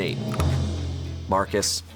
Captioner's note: tense music building; button clicks